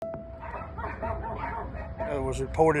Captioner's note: dogs barking